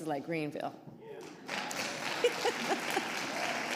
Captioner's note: applause; laughs